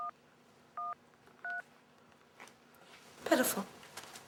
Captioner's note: dialtone drones; cellphone dialing